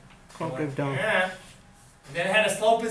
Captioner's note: voiceover